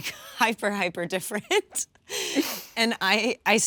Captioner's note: laughs